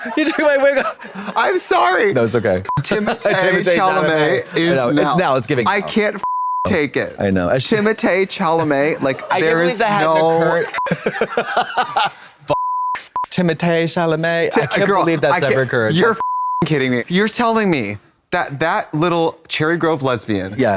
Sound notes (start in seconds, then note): 6.2 beep; 12.5 beep; 16.1 beep